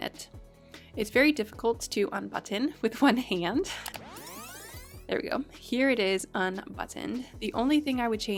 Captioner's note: fast forward sound